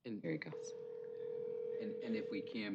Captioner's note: buzzing